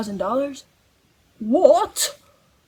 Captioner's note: british accent